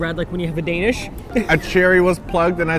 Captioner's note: laughs